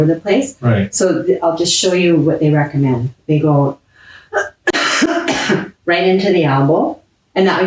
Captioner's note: coughs